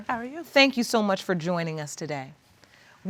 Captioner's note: none